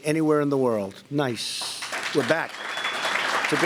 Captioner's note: applause